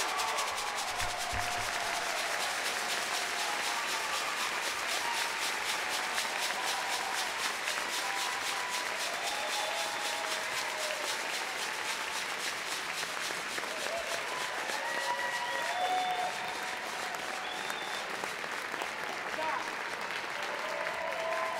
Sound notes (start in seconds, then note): 0.0 audience cheering; 0.2 audience cheering continues; 4.0 audience clapping; 6.6 audience cheering; 9.6 audience cheering continues; 13.3 standing ovation clapping; 17.0 standing ovation clapping continues